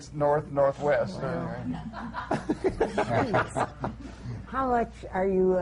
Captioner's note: laughter